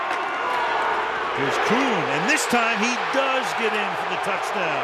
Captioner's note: crowd cheering